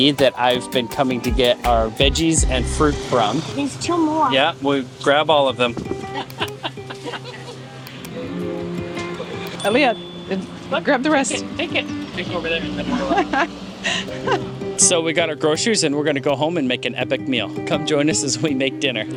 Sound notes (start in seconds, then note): 5.8 music, ambient sounds, laughter; 13.8 laughing